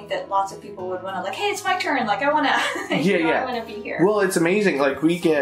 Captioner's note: laughter